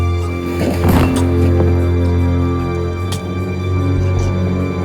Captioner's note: Highley gurgling